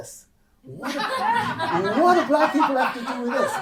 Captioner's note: audience laughing